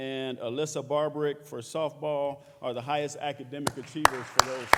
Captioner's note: applause